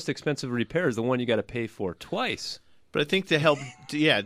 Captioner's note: laughs